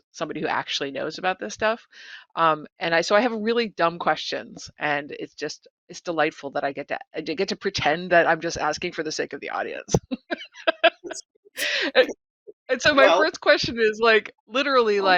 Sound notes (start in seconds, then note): 10.5 laughing